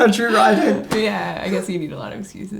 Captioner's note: laughing